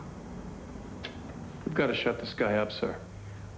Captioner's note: recorder clicks off